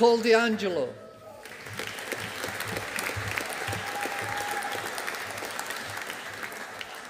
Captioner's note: audience applauding